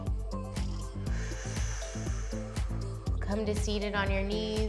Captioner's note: inhales; exhales